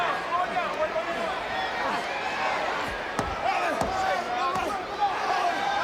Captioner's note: people chattering indistinctly